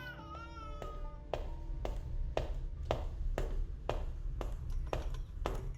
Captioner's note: footsteps clicking